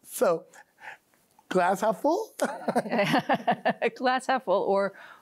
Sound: laughs

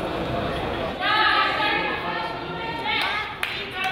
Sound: crowd chatters

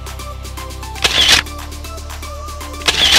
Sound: camera shutters; camera shutters

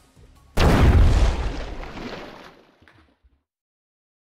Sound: loud Explosion

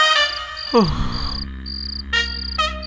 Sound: sighs

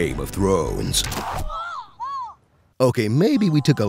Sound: screaming

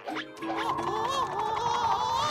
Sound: shrieking

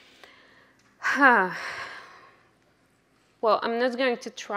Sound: sighs

